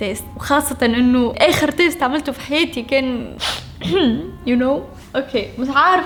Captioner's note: clears throat